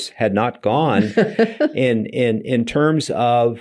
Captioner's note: laughing